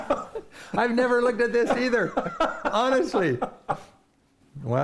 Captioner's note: laughter